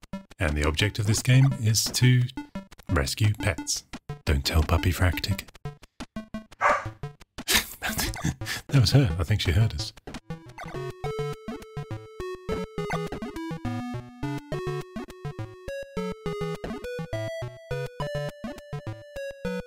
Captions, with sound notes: And the object of this game is to rescue pets.. don't tell Puppyfractic! (barking) That was her.. I think she heard us!